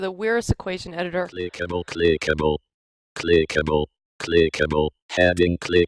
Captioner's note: NVDA speaking